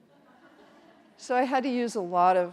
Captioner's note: audience chuckles